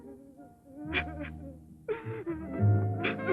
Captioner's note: Monique sobbing